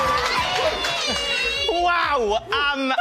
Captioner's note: cheering